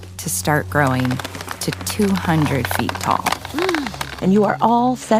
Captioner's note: gasps